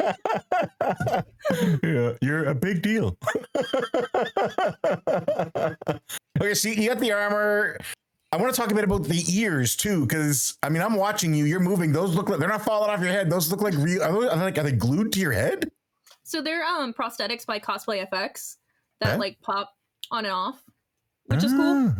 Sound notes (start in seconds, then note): 4.4 laughing